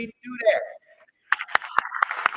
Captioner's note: applause